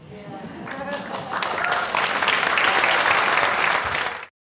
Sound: applause

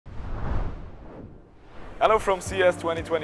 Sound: subtle whooshing

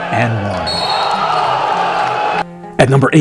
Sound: cheering

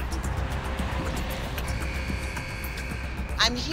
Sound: buzzer sounds

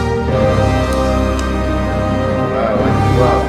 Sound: triumphant music; clicks

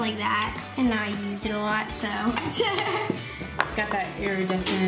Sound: laughs

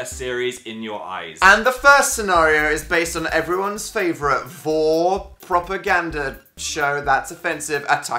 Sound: stutters

